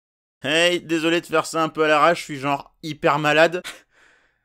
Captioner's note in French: Voix de personne malade